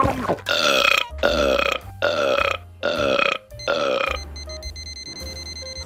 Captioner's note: burp